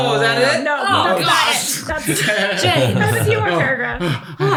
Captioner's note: laughs